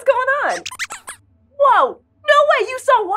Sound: squeaks squeaks, sounding excited

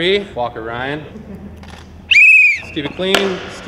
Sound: whistle blows

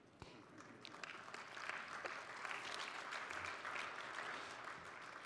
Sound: audience applauding

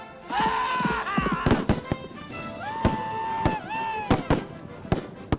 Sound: fierce cries, gun shots

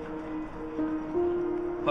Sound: no signal

